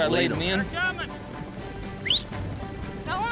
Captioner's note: whistles